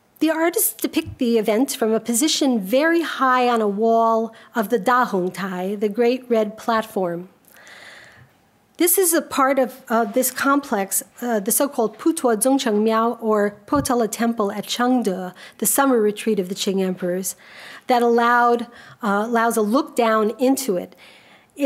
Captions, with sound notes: The artists depict the event from a position very high on a wall of the Dahongtai, the great red platform. This is a part of this complex, the so-called (speaks a foreign language) or Potala Temple at Chengde, the summer retreat of the Xing emperors that allowed a look down into it.